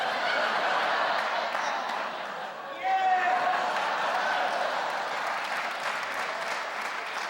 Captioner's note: cheering; audience laughing; audience clapping and laughing